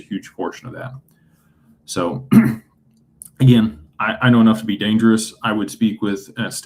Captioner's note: clears throat